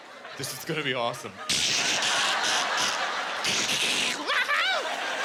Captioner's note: imitating duct tape ripping